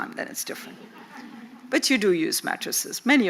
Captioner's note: audience chuckles